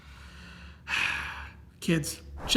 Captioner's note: sighs